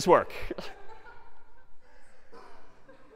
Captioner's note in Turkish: Kahkahalar